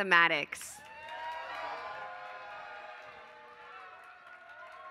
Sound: applause

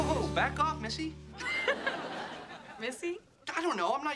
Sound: laughing

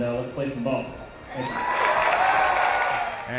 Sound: crowd cheering

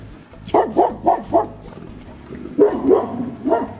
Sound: barking

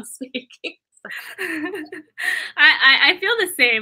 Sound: laughter

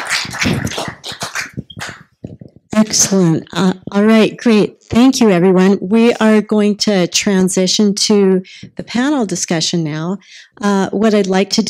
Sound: applause

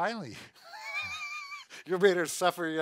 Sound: laughing

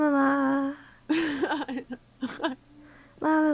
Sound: giggles

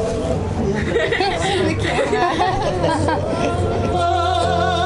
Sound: laughter

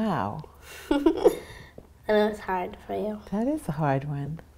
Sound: laughs

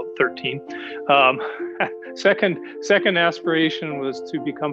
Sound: chuckles

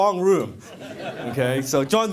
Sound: laughing

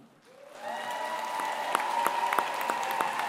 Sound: applause

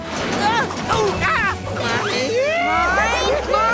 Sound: grunting

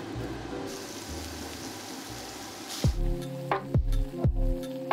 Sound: meat sizzles; relaxing music

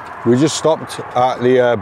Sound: none

